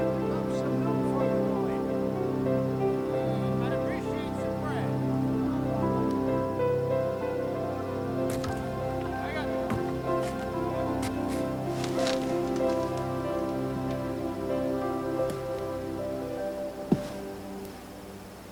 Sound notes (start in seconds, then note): 9.6 approaching footsteps